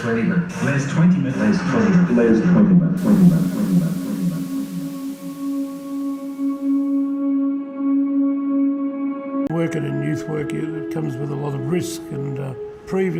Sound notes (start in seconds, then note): 3.0 name echoing